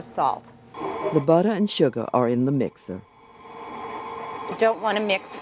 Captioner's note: voiceover